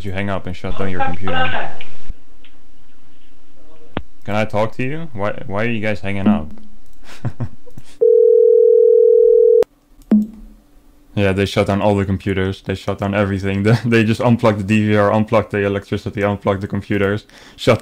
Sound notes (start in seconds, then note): 1.4 in Hindi; 5.7 dialing